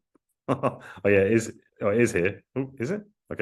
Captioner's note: laughs